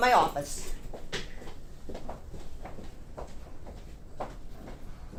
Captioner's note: shoes clop